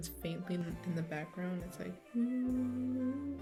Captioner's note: makes sounds lol